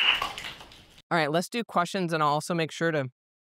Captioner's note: applause